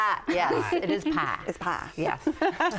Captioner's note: laughs